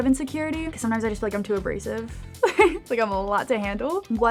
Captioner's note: laughs